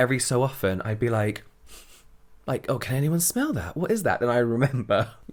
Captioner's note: sniff sniff